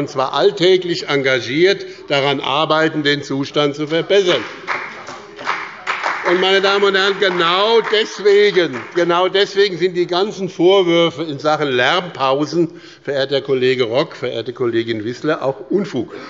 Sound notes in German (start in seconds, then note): 4.1 Beifall bei dem BÜNDNIS 90/ DIE GRÜNEN und der CDU